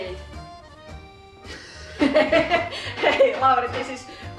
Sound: contagious laughter

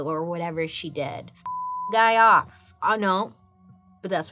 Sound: beep

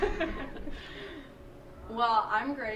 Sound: laughter

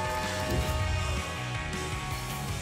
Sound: whoosh

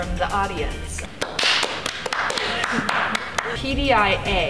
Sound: clapping

